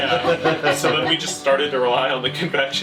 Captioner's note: laughter